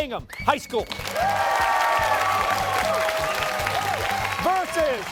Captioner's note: cheers and applause